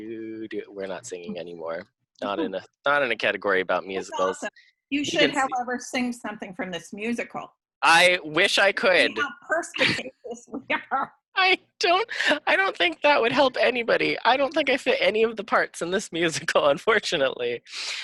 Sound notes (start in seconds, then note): 9.4 laughing